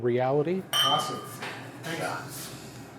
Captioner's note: glasses clink